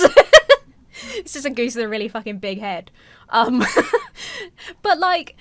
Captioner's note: laughs; laughs